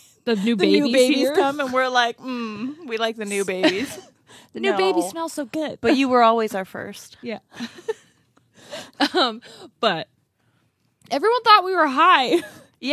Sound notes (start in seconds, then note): 7.4 laughs